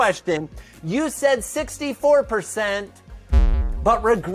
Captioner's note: electronic sound effect